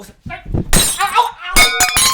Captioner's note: krasch!